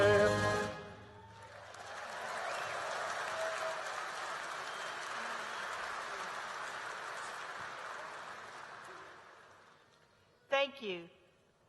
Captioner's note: applause